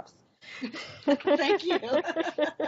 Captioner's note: all laughing